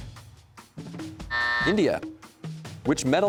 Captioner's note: buzzer sounds